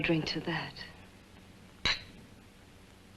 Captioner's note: glasses clink